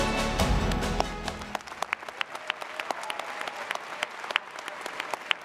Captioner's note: audience applauds